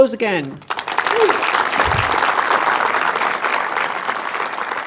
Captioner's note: audience applauding